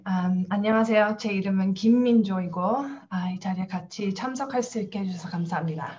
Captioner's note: speaks in foreign language